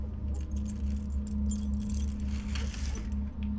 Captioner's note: clattering